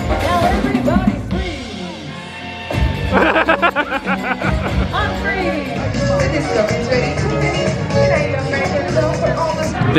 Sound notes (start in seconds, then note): 3.1 laughs; 6.9 upbeat music